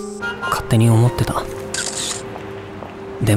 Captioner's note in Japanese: シャッター音